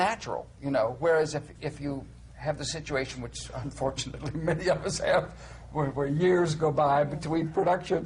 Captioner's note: he laughs